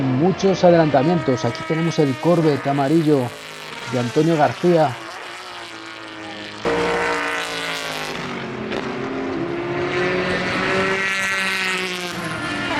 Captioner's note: motors